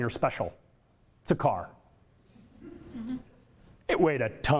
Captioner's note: audience laughter